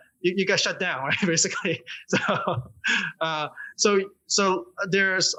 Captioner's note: laughter